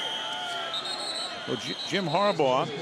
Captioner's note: whistle